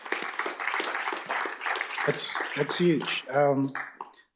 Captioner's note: applause